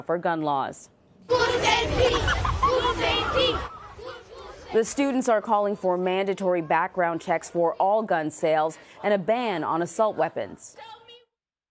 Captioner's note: chanting